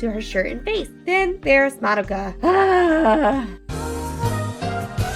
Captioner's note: sigh